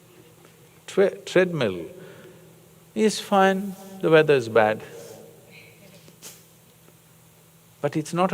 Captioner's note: laughs